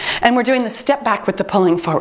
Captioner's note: timer beeps